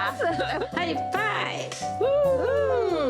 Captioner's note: laughter